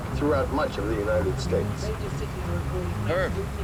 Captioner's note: overlapping radio walla&